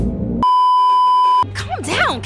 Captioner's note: beeeeeep